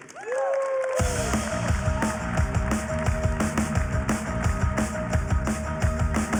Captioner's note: cheers and applause; applause